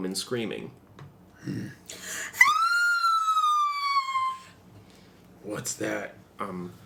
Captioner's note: female scream